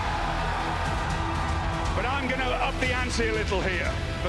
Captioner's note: crowd cheering